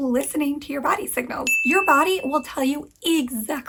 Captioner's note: bell dings